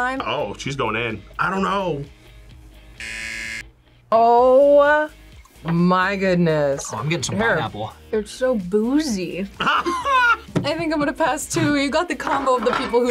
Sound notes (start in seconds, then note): 3.0 buzzer; 9.6 laughs